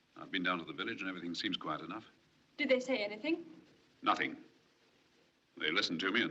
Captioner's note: none